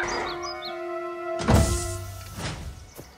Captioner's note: heavy thud